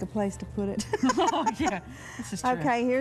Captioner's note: laughs